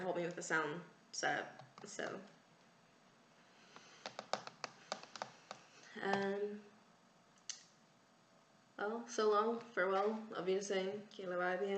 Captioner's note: taps hands rhythmically